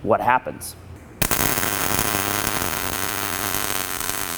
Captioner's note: weld popping